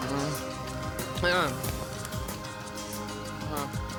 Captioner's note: groaning